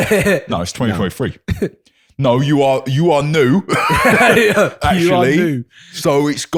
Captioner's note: exaggerated British accent